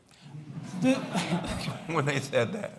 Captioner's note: laughter